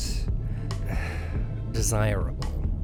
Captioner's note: pained sigh